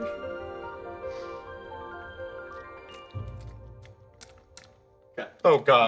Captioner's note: Chuck munching